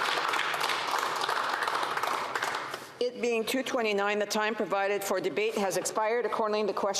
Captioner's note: applause